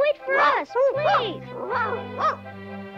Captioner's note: light orchestral music; Arrow barking